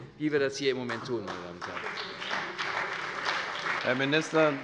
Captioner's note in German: Beifall bei der CDU und dem BÜNDNIS 90/DIE GRÜNEN